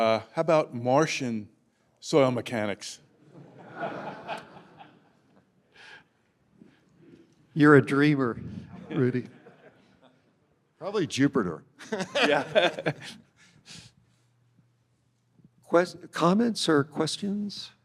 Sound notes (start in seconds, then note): 3.3 audience chuckling; 11.8 chuckling